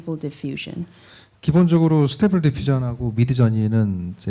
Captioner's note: speaking korean